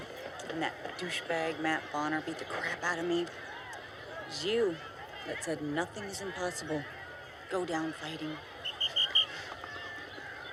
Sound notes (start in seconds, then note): 8.6 whistle blows